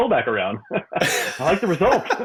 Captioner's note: both laughing